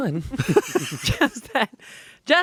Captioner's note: laughing